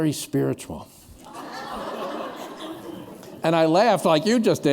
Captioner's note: laughter